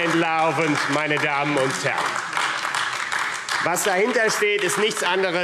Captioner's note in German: Beifall AfD